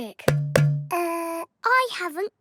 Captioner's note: hollow clunking